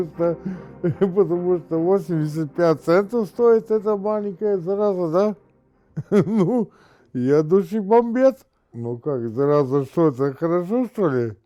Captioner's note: laughing; laughing